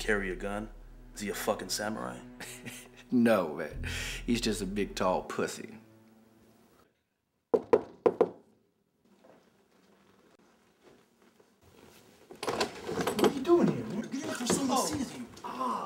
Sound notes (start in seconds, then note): 2.4 chuckles; 7.5 door knocking